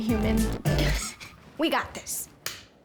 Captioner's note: laughs